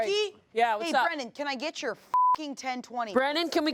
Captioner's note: beep